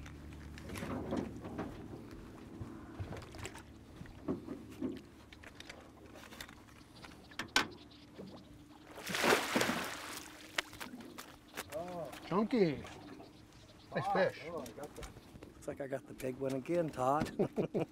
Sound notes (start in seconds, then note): 4.3 fish splashing